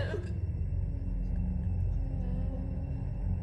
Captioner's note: moaning